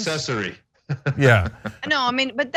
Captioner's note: laugh